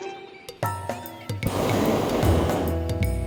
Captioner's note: burner hissing